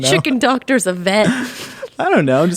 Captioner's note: laughing